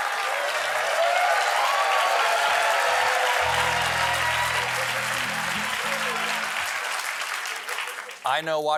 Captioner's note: cheers and applause